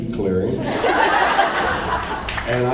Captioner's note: laughs